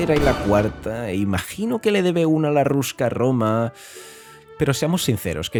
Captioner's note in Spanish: takes a big breath